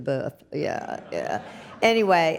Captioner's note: audience laughs